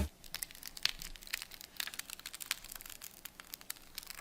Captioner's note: sticker crackling